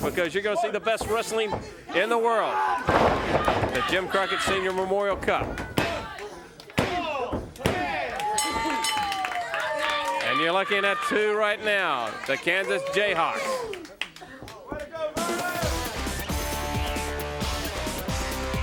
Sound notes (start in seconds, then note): 8.4 bell rings; 15.1 upbeat music